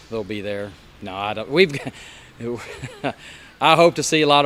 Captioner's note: laughing